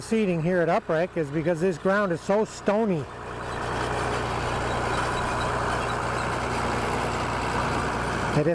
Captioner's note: diesel engine sound